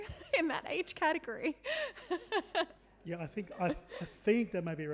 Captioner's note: laughing